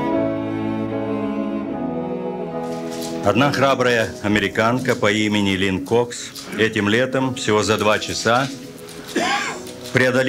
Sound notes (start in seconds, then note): 3.7 speaking Russian